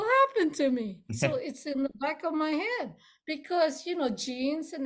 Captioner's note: laughs